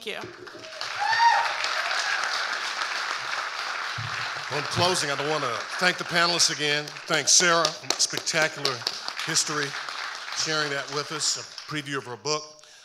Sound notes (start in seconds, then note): 0.2 audience cheering and applauding; 8.3 and audience applauding